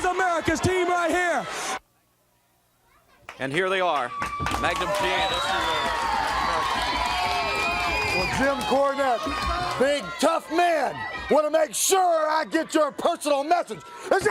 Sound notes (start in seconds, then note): 10.9 crowd cheering